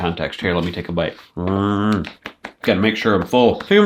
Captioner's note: groans